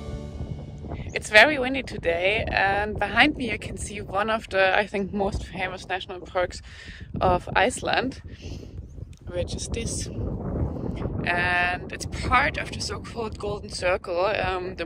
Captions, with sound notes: (air whooshing) It's very windy today. And behind me, I can see one of the, I think, most famous national parks of Iceland, which is this. And it's part of the so called Golden Circle,